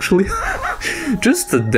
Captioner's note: laughs